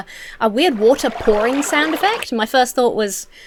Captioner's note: water pouring